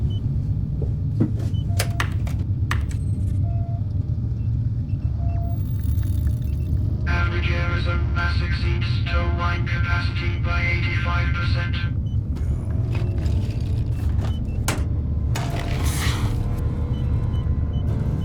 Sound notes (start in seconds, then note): 2.6 keyboard clacking; 13.2 dramatic music; 13.2 machines beeping